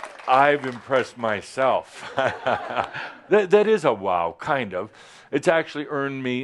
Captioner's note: chuckles